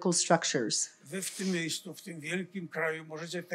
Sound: foreign language

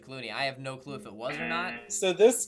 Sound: buzzer rings

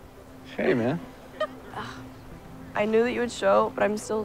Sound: scoffs

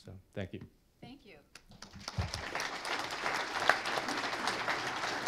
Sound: applause

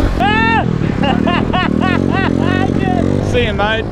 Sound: laughs

